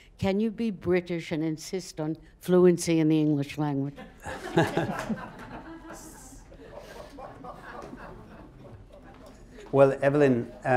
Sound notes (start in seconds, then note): 4.0 laughter; 7.2 laughs